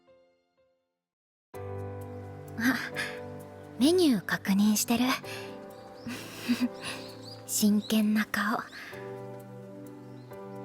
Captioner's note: laugh